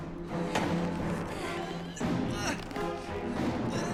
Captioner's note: groaning